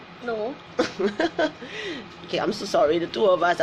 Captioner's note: laughs